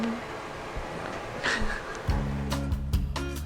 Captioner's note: laughing; gentle music